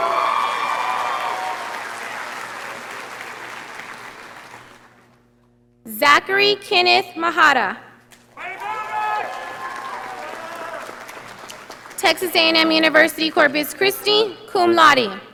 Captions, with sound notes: Zachary Kenneth Maharaj. (audience applauding) Texas A&M University Corpus Christi, cum laude.